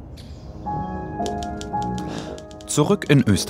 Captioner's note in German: Schreibmaschinengeräusche